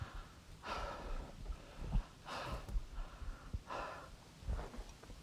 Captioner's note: Arawn breathing heavily